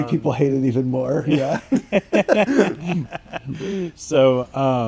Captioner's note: both laughing